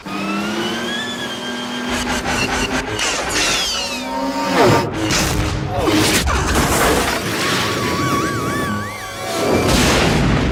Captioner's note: sci-fi speeder noises